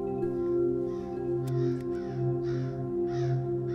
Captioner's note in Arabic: نعيق الغراب